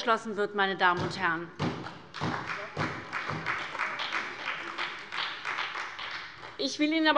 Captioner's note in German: Beifall bei der SPD